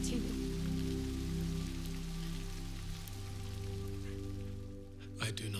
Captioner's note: gentle music; rain spattering